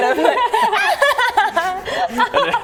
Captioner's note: childish laughter